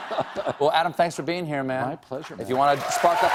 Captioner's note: laughter